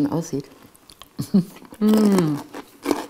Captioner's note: laughs quietly